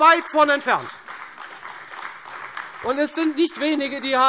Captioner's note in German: Beifall Freie Demokraten und AfD